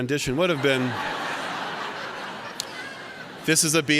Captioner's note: laughter